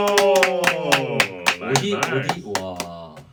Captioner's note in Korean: 환호+물개박수